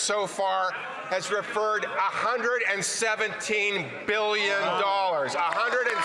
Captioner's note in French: voix de l'interprète